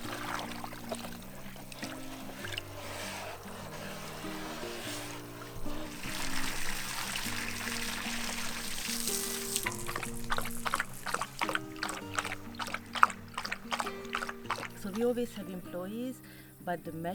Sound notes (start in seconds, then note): 5.6 water splashing